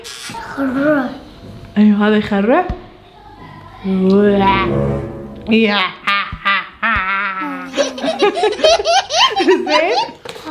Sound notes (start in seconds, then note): 4.1 scary groans